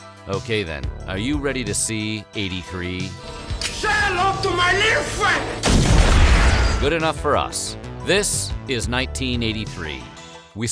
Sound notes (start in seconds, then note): 3.0 click; 5.6 boom